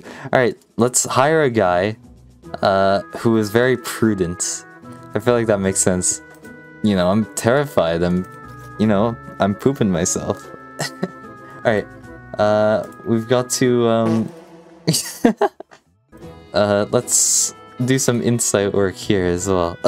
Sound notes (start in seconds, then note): 14.9 laughs